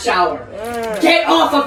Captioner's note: groan